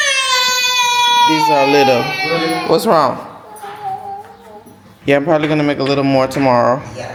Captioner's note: screaming